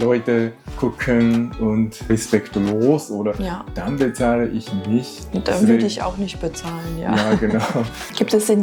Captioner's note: laughs